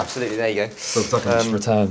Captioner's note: inhales sharply